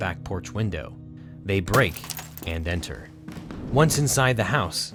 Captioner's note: glass shatters